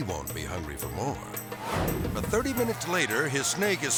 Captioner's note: air swoosh